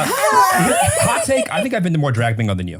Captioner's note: everybody laugh